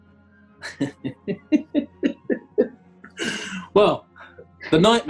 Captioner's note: chuckling